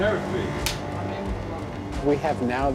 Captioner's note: clapper snapping